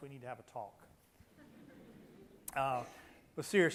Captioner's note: loud laughter